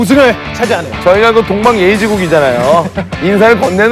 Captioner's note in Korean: 하핫